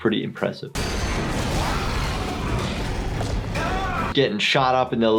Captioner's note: monster screams